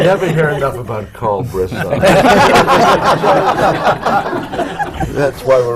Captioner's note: laughter